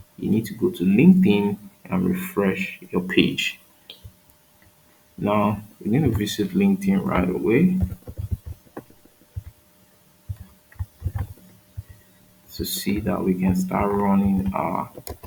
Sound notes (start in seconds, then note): 7.0 keyboard clacking